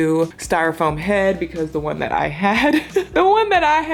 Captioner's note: laughs